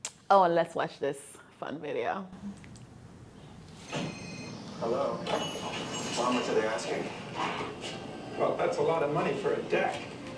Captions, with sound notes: and let's watch this fun video. [Telephone ringing] [Customer speaking on earpiece] Hello. How much are they asking? That's a lot of money for a deck.